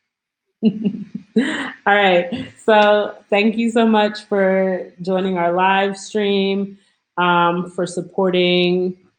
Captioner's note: chuckles